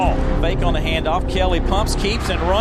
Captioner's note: voiceover